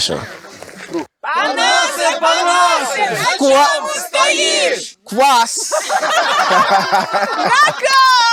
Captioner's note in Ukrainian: сміються